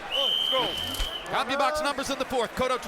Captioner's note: whistle blows